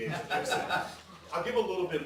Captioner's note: audience laughing